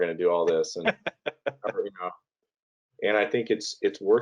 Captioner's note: laughing